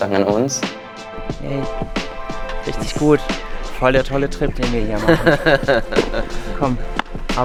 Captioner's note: laughter